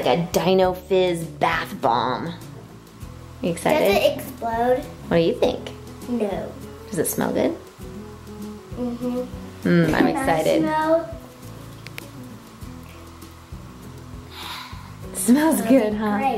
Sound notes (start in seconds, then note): 14.2 sighs